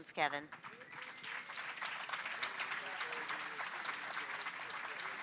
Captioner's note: applause